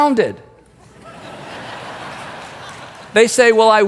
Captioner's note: crowd laughing